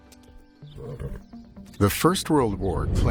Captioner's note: birds chirping